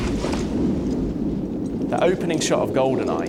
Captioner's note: wind blows; bungee cord clinks